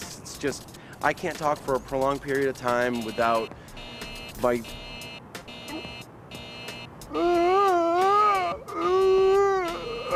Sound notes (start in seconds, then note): 3.8 buzzer; 7.2 gasping